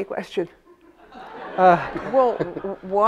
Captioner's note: audience laughs